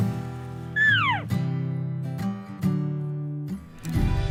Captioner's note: animal sounds